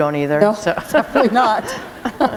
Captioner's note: chuckle